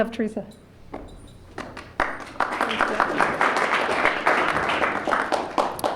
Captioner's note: applause